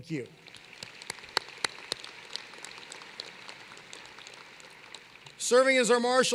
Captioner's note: applause